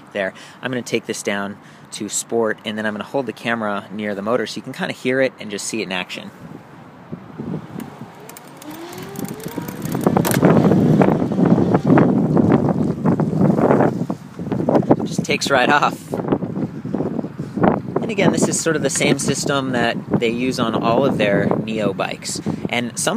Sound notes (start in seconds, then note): 7.8 motor whirring